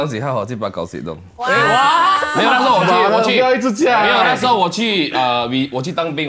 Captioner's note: commotion